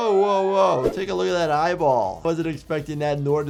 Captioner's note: air whooshing